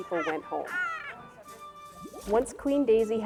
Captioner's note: cook laughing